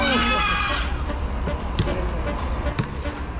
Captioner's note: hahaha